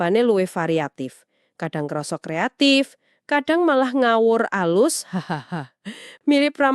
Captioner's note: chuckles